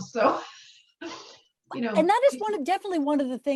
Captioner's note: chuckles